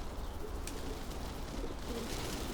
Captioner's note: wings rustling; pigeons cooing